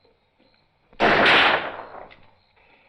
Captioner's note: gunshot